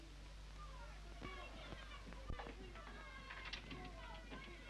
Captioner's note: muffled children yell